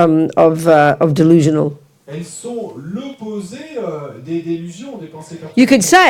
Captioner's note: French